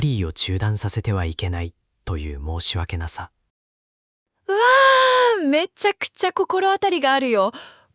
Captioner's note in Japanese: 息をのむ音